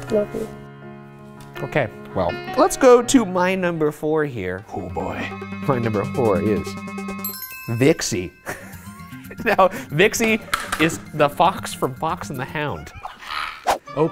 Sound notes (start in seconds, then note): 4.6 suspenseful music; 8.4 laughs